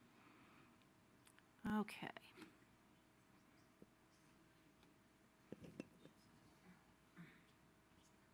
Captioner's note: silence